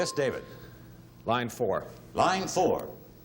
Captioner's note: ding